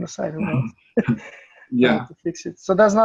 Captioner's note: laughs